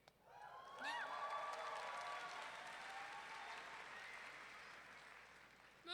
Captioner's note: audience whooping and clapping